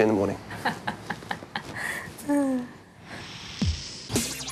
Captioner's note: chuckles